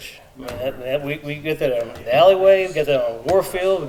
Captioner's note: member speaking faintly